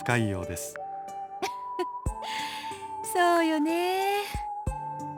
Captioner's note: chuckle